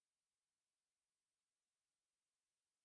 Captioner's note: none